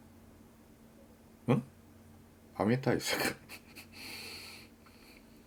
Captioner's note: laughter